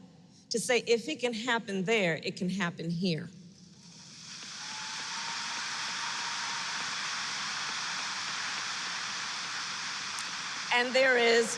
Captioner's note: applause